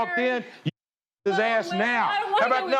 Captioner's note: muted